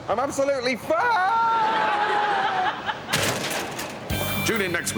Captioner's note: crash